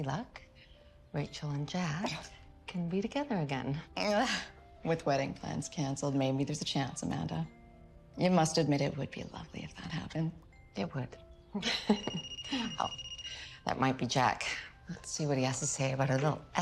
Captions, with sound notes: Rachchel and Jack can be together again. (chuckling) - With wedding plans cancelled, maybe there's a chance, Amanda. You must admit, it would be lovely if that happened. - It would. (phone ringing) Oh, that might be Jack.. Let's see what he has to say about our little escapade.e.